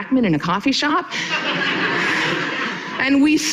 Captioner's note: audience laughing